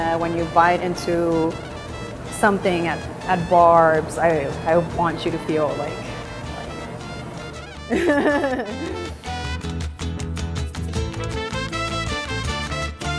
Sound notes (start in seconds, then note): 7.8 laughing; 9.4 upbeat music continues